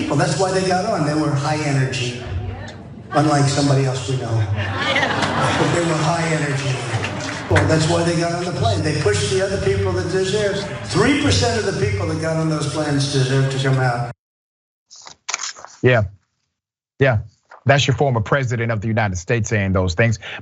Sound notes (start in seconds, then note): 3.0 laugh